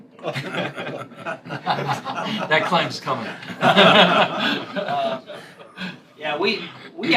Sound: laughter

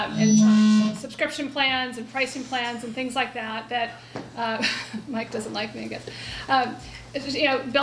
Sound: chuckle

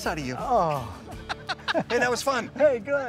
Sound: laughing

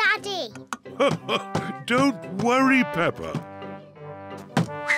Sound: laughs

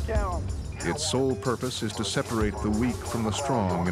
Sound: voiceover

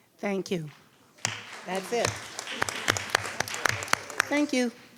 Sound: audience applauds

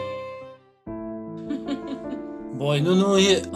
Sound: laughing

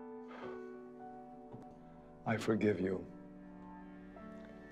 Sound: sighs

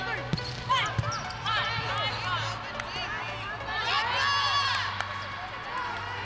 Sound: upbeat electric music; volleyball players loud chatter

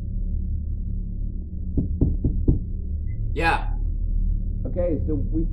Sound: knocking

